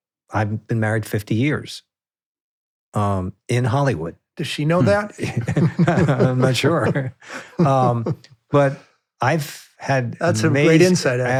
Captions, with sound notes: I've been married 50 years in Hollywood. Does she know that? (both laughing) I'm not sure. But I've had- That's a great insight.